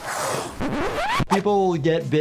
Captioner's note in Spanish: silbidos de cocodrilo